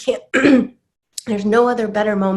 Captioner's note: clears throat